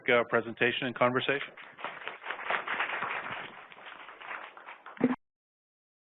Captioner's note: applause